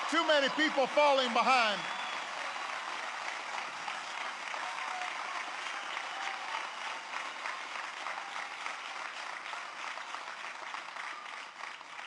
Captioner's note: applause